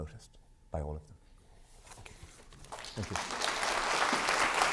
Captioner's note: applause